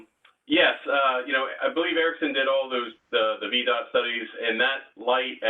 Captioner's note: laugh